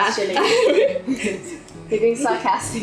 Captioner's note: laughing